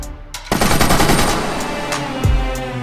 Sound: gun shots

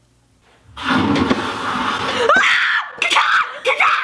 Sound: screams; loud rumbling

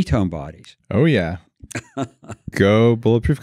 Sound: laughing

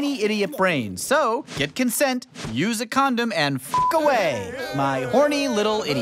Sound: beep

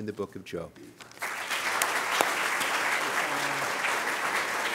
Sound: applause

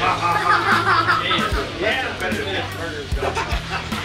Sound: crowd laughing

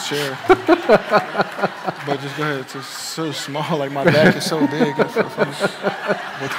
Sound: laughter

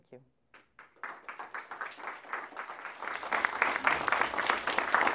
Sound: applause

